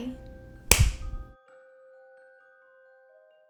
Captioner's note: hands clap